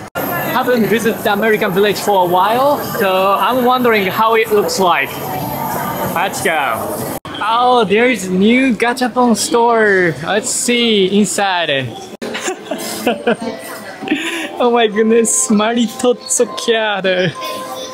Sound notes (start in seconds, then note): 12.2 laughs